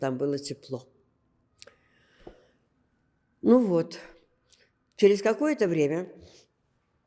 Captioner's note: gasping